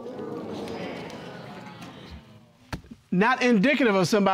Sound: audience exclaims

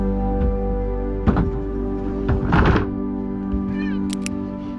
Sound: door closing

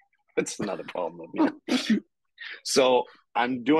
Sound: both chuckling

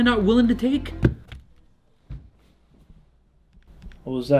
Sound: object falling

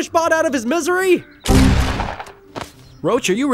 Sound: gun fires

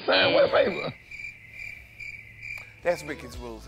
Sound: cricket chirps

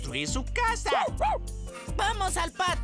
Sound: barking

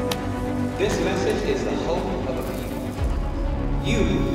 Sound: Markus's speech continues over loudspeaker

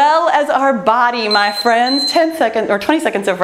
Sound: timer beeping

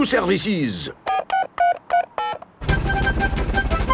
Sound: dialing

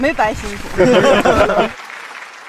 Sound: haha

